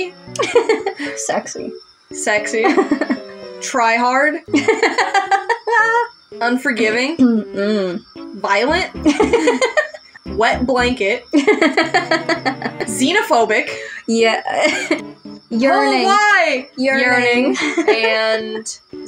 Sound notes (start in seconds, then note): 0.4 laugh; 2.6 giggle; 4.5 laugh; 9.0 laugh; 11.4 laugh; 14.6 laugh; 17.0 laugh